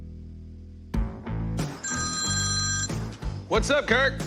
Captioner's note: cellphone rings